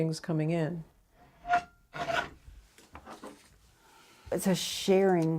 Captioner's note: metal blade screeching